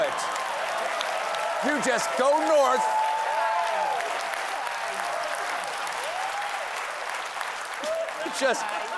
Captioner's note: cheers and applause